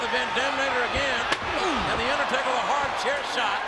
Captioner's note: steel slapping